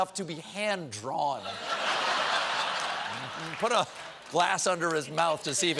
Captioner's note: laughter